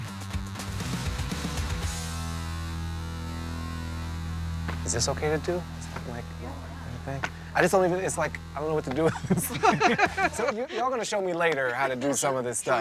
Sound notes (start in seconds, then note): 0.3 upbeat music; 8.8 all laughing